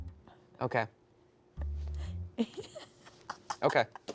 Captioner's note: chuckling